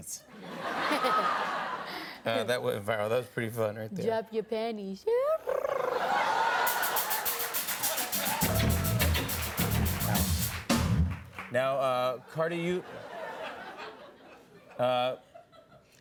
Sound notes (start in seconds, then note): 0.3 laughter; 5.5 chirping; 12.7 laughter